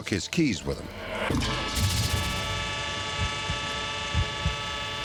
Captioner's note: honking